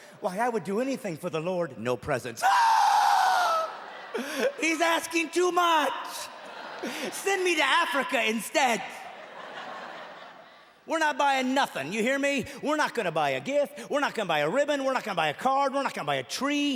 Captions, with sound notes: I would do anything for the Lord. No presents. [screams] He's asking too much. Send me to Africa instead. [Laughing] We're not buying nothing, you hear me? We're not going to buy a gift, not a ribbon, not a tree.